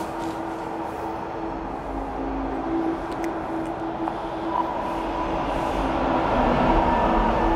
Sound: subway approaching

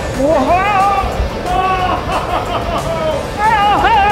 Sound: Grinch yelling

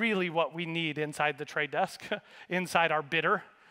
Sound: laughs

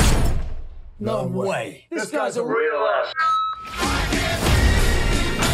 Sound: radioscreech

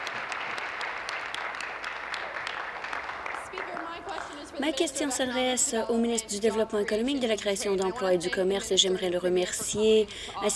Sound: applause

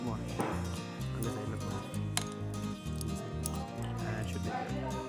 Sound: mumbles

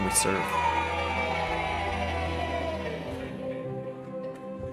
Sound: cheering; soft music

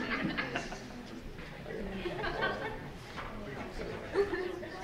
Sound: audience laughing

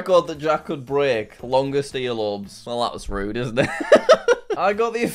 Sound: laughs

